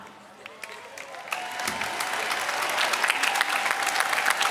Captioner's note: applause